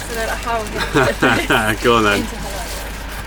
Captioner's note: laughs